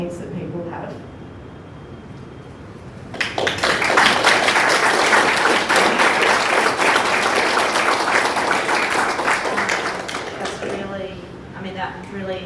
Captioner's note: clapping